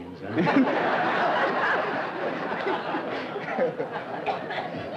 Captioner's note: laughter